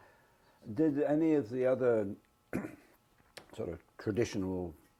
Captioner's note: cough